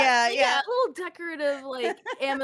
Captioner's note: laughs